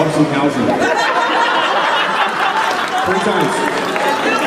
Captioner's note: crowd Laughs